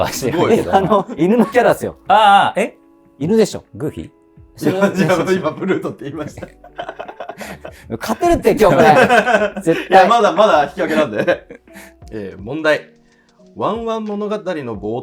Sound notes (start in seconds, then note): 6.2 laughing